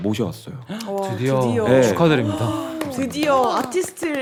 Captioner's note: applause